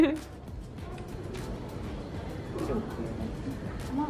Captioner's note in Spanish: se ríe